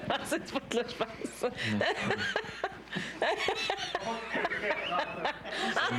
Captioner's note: rires